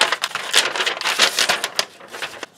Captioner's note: paper crinkling